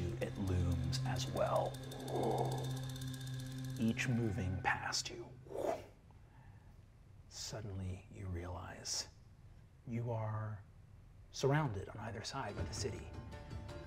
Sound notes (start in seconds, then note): 0.0 mimics wind whooshing; 5.5 mimics wind whipping